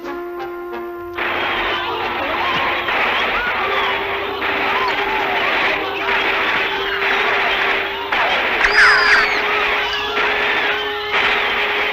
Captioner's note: guns Fires